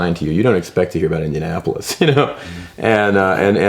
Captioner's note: laughs